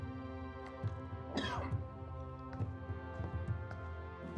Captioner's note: coughing